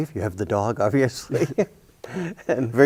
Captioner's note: chuckles